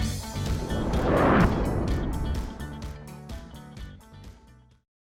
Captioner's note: music gets louder; air whooshing